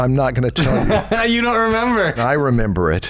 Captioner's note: laughter